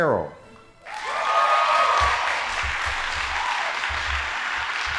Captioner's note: audience applauding